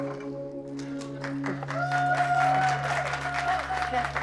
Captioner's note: cheers and applause